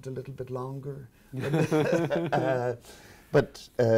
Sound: both laughing

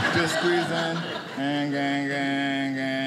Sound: audience laughing

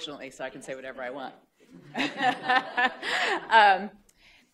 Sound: laughter

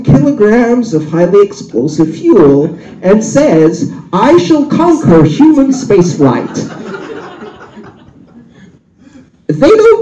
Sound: shout; laughter

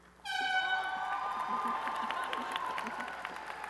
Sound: applause and cheering

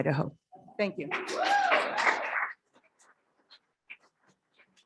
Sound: applause

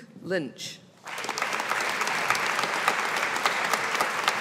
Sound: audience applauding

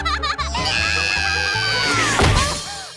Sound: laughing; screaming

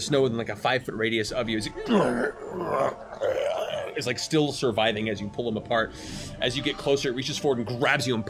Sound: death rattle

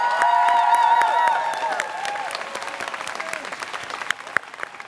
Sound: students cheering

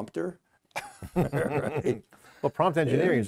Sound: laughter

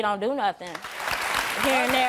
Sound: audience applause

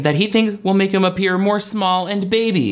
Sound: none

